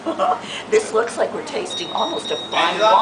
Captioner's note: giggles